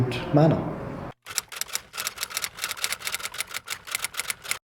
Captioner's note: keyboard clacking